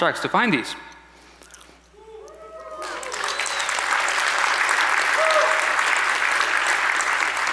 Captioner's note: audience applauds